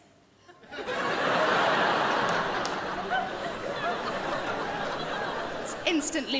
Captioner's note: crowd laughs